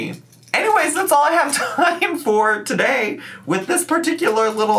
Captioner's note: laughs